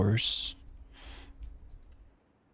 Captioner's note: sighs